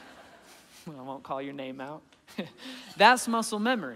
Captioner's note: laughing